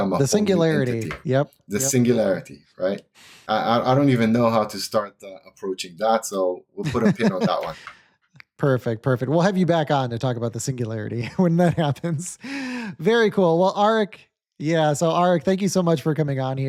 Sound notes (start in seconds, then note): 6.8 laughs